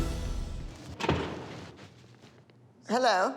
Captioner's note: door closes